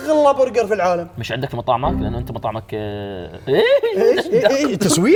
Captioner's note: laughs